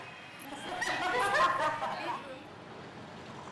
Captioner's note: women laughing